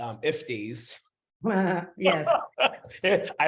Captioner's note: chuckles